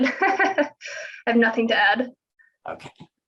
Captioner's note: chuckles